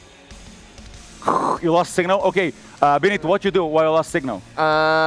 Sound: static

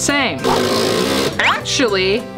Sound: drilling sound

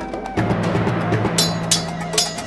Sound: swords clanking

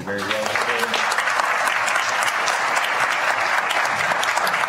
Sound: applause

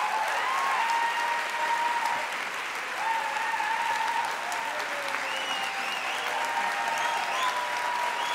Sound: applause

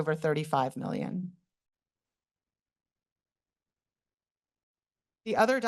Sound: pause

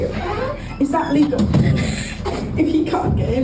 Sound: they giggle

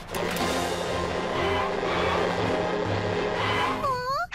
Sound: tires screeching

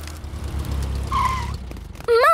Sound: tires screeching

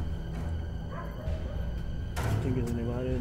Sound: dog barking

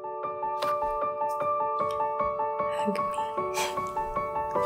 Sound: laughs a little

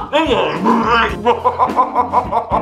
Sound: throwing up sounds

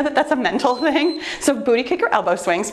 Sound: timer beeps

